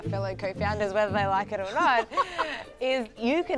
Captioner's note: laughs